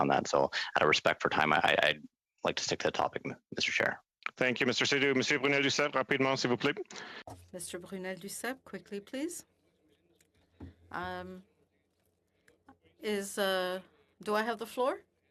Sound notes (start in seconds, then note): 12.1 speaking French